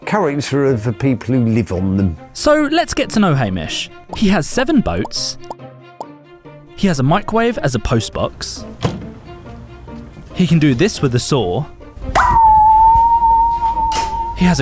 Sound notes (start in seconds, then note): 5.3 popping; 8.8 lid shuts; 11.8 high-pitched whir; 11.8 slaps